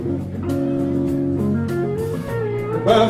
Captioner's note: audience cheering